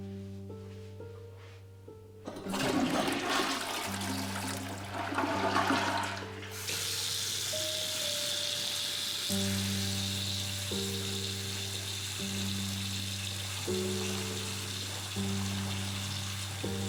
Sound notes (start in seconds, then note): 0.1 somber music; 0.1 toilet flushing; 6.7 somber music continues; 6.7 water gushing; 16.0 somber music continues; 16.0 water gushing